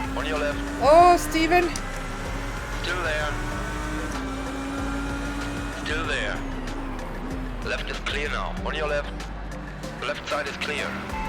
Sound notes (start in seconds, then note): 2.0 engine revving